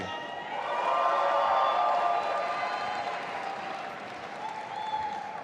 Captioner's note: audience applauding and cheering